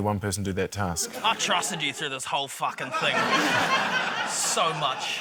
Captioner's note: laughter